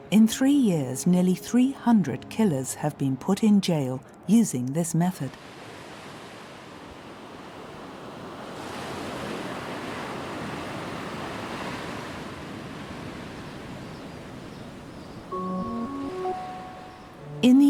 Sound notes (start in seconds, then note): 5.8 waves lapping; 15.3 bright instrumental music